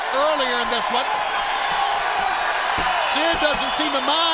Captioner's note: crowd cheering